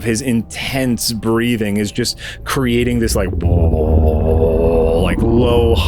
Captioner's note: low vibration